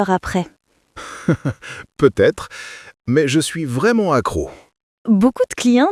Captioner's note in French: rire